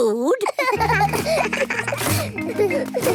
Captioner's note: laughter